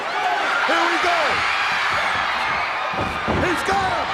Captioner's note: crowd cheering